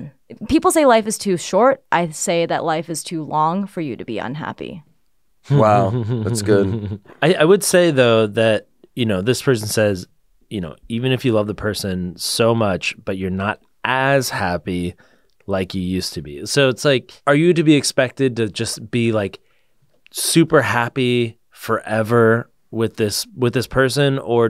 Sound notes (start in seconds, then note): 5.4 laughs